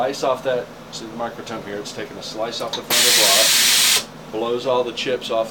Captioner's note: blowing